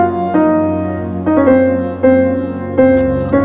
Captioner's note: Car halting